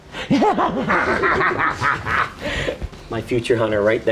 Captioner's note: laughing